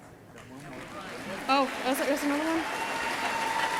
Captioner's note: audience clapping